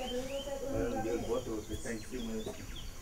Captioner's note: speaking foreign language